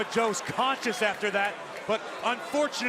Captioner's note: crowd cheering